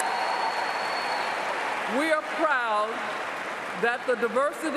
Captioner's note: cheers and Applause